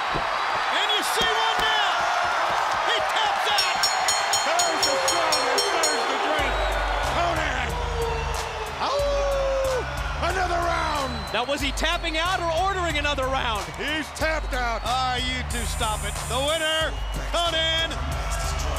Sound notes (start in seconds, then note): 1.7 bell ringing